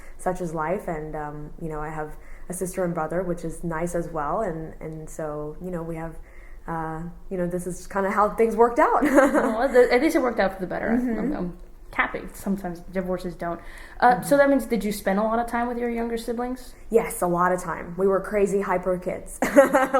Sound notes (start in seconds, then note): 8.4 laughs; 18.2 laughs